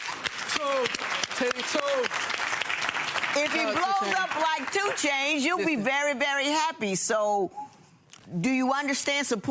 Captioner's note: audience applauding